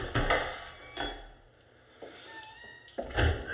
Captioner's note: door creaks